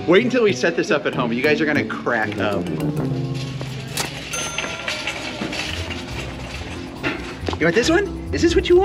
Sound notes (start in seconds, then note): 4.3 register dings